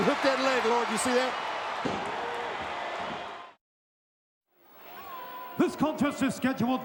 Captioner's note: crowd cheering